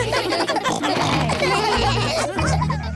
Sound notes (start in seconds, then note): 0.0 laughter; 0.5 snorting